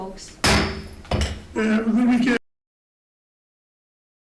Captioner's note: gavel thumps